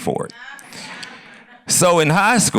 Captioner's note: laughter